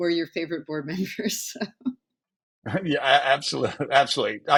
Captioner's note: chuckles